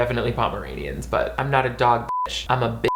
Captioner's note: beep, beep; beep